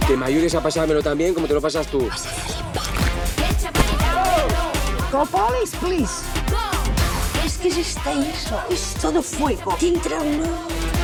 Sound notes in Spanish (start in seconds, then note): 3.7 gritos